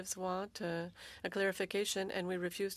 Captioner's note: speaking French